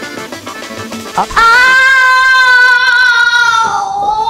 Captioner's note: Screaming